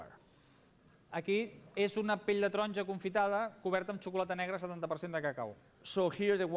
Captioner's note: non-english speech